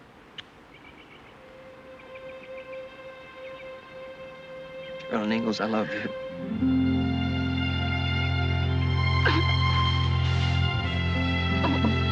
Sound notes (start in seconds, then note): 9.2 crying